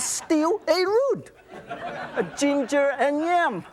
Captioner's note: audience laughs